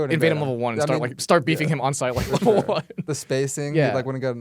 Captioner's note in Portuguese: risos